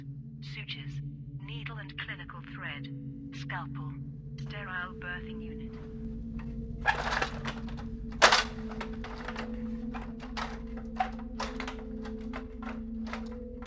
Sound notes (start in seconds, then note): 5.7 metal clattering